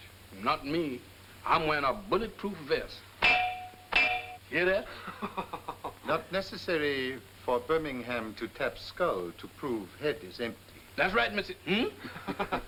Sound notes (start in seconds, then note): 3.2 clangs; 4.8 laughing; 12.0 men laughing